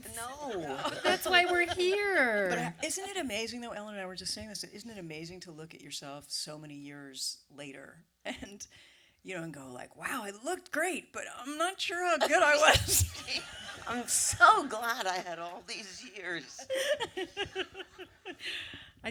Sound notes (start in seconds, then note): 12.3 laughs; 16.1 laughter